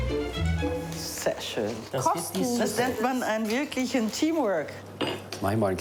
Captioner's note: speaking foreign language